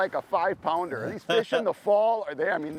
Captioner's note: laughs